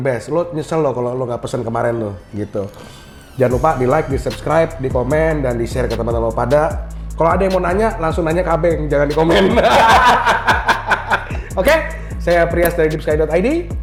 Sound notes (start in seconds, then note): 9.3 laugh